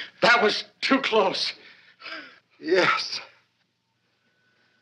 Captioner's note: gasping